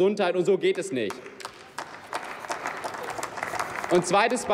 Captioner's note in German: Applaus